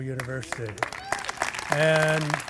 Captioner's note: applause